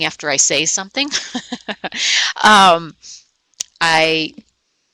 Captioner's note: laughing